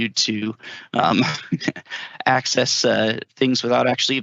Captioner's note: laughter